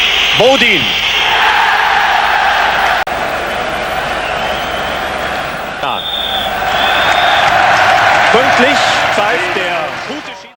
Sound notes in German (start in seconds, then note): 0.3 jubel; 9.1 jubel